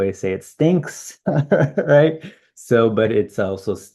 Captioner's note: laughs